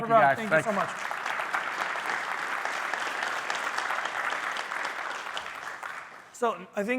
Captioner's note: applause